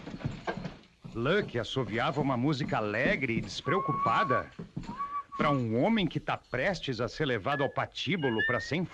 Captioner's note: lucky whistles a song